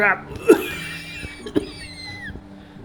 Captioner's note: coughs